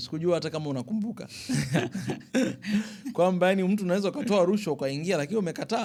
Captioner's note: laughter